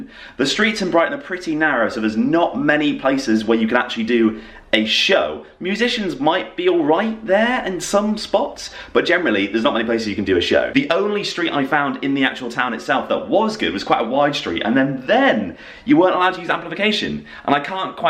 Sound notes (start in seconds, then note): none